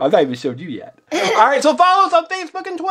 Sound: both laugh

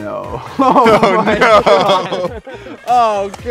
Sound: laughs

